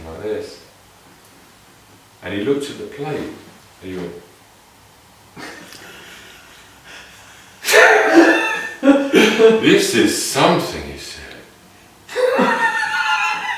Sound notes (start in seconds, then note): 5.3 laughing; 12.0 more laughing